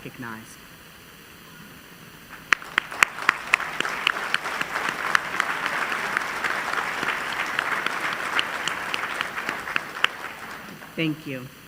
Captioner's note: applause